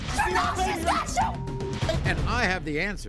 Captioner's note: beep